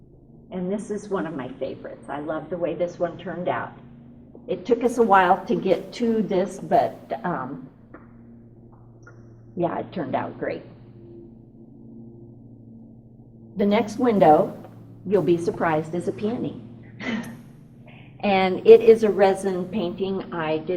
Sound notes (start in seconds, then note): 17.0 laughs